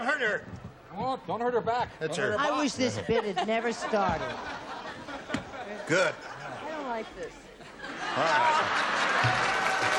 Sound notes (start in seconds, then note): 7.5 laughter; 8.7 applause